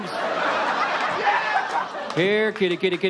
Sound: audience laughs

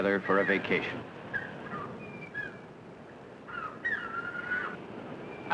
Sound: seagulls squawking

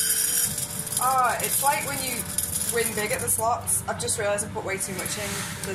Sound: tapioca rattles as it pours into pan

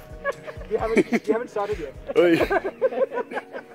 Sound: laughs

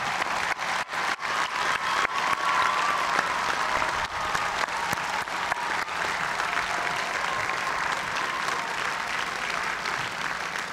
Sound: cheers and applause

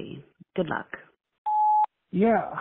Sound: beep

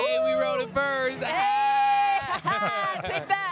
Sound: both exclaiming and laughing

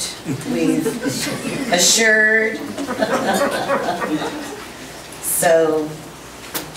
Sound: group laughs

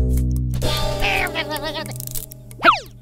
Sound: grumbling

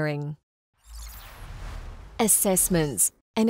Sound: screen whooshing

